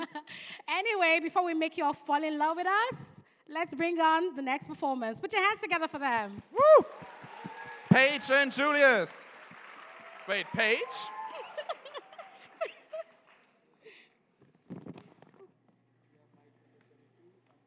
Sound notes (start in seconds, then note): 11.3 laughter